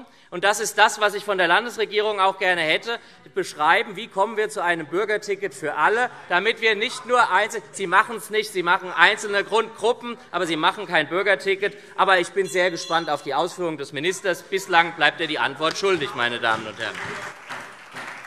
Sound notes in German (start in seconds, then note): 12.8 Anhaltende Unruhe - Glockenzeichen; 17.6 Beifall SPD und vereinzelt DIE LINKE